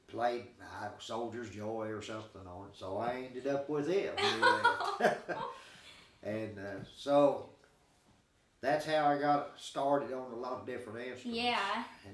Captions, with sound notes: played "Soldier's Joy" or something on it. So I ended up with it when he left. (chuckling) And so, that's how I got started on a lot of different instruments.